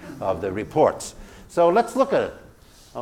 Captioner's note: laugh